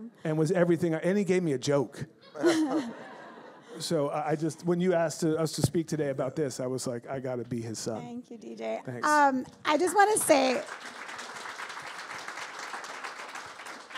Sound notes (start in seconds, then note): 2.4 audience laughs